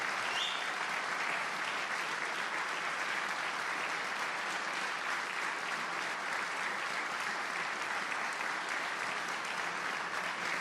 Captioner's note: applause